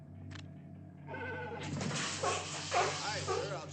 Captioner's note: barks